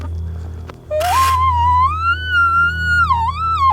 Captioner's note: cow mew